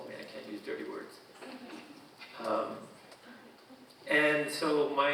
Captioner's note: audience chuckling